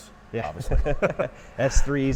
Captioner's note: laughing